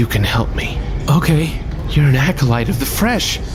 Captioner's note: nervous